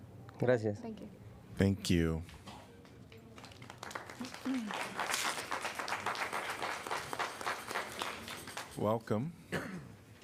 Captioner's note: applause